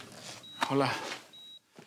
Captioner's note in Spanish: Bip del monitor